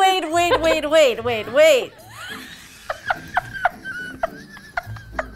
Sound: laughing

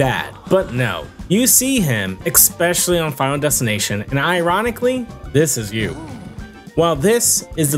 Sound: luigi dying

